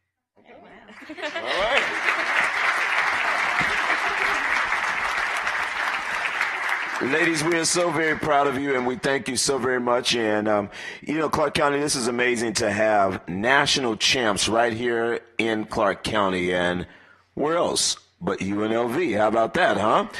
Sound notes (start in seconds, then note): 9.0 applause